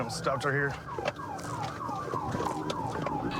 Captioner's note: sirens blaring